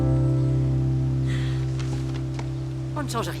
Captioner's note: soft music; sighs